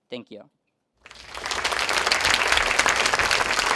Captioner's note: clapping